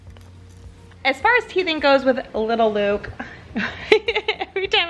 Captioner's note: laughs